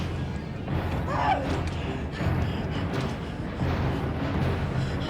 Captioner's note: screaming Continues